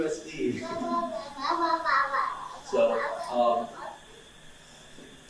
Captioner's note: baby murmurs baby talk